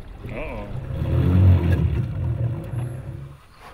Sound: motor gurgling

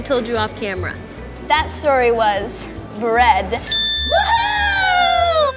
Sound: tinkling

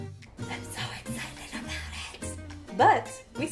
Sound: whispering

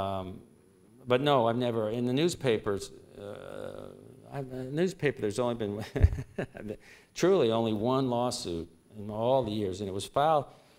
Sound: laughter

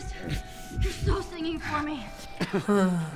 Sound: Joel's heart thumps; Joel chuckles weakly and pants

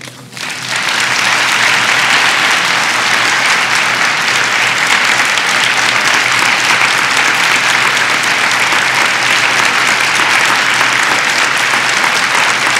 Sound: clapping

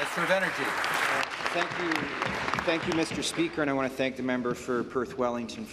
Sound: applause

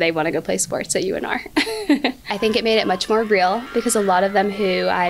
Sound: laugh

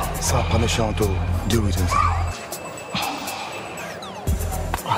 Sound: speaking in foreign language

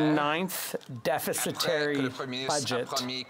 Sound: speaking French

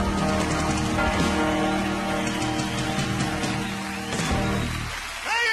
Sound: audience cheering

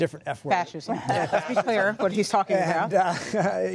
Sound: laughter

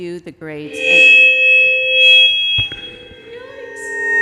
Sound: microphone screeching

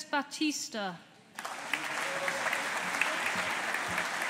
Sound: audience applauding

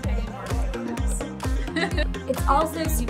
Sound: laughing

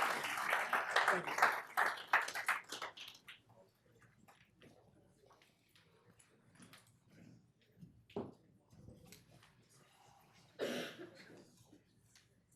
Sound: applause

